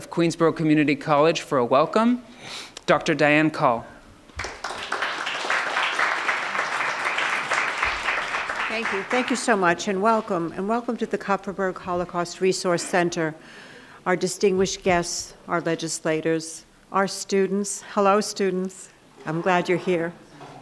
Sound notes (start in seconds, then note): 4.3 applauding